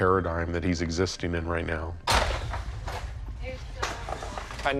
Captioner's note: clattering